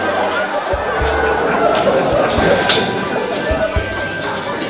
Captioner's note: laughter